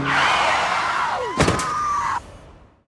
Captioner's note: tires squeal; she screams; loud thud